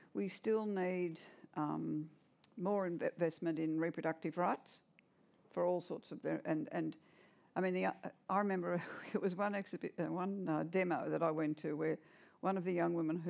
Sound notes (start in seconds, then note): none